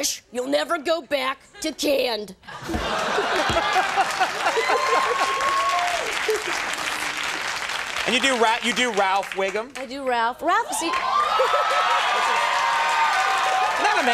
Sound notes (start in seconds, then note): 3.2 Conan laughs; 4.8 audience cheers; 10.7 audience cheers